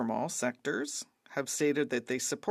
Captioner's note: speaking French